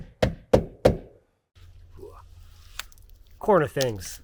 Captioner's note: hammer knocking